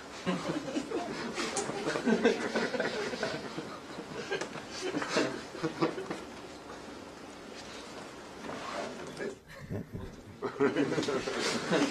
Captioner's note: audience laughs and murmurs